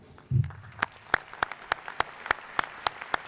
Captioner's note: applause